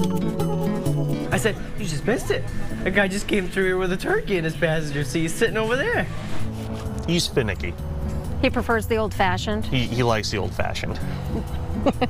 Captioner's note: laughter